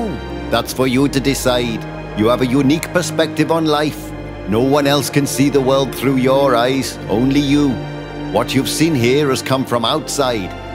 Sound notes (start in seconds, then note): none